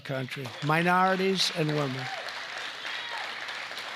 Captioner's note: applause